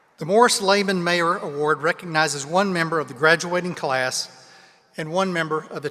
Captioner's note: none